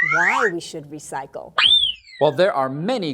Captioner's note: whistle